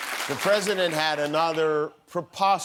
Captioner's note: cheers and applause